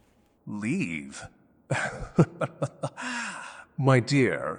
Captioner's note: laughter